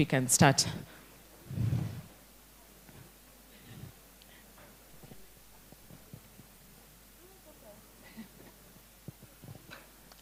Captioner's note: indistinct conversation